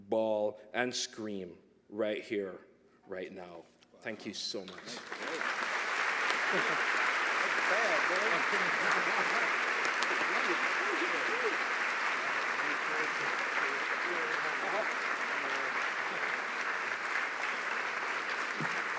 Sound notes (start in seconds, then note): 4.1 applause